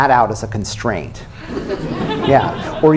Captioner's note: laughter